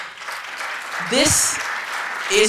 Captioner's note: applause